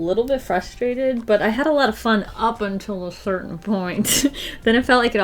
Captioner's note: laughs